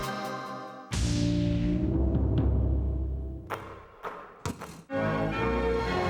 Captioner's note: balls whooshing; bright flourish music